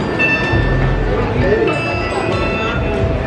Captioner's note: magical ding